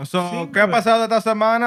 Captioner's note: speaking Spanish